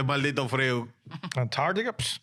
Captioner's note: speaking In Foreign Language